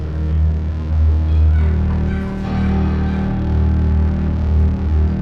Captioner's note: dogs Barking In Background